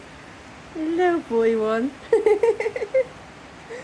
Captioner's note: laughing